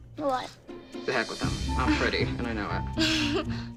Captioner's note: laughs